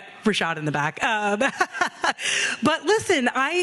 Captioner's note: laughing